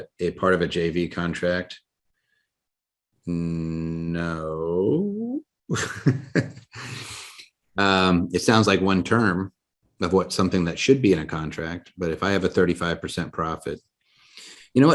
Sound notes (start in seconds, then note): 4.3 laughs